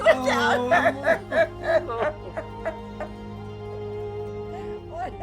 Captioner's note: sobbing